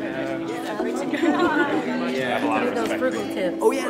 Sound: people chattering

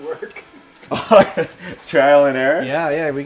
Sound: laughs

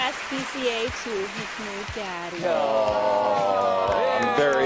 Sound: applause

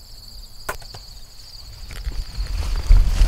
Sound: bow shot heard

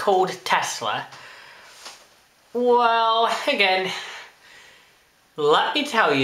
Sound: sigh

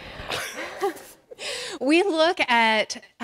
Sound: laughing

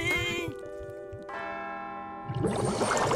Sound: bells ringing

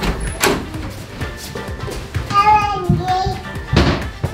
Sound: babbles

